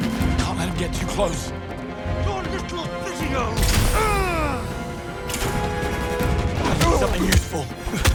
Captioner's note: groaning and screaming